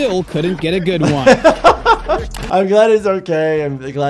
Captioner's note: laughs